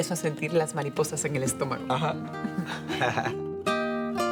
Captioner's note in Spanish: Risas